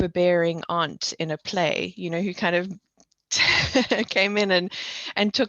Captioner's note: laughs